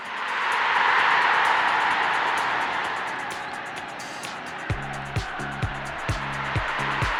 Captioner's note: crowd roaring; upbeat music